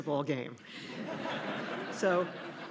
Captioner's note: laughter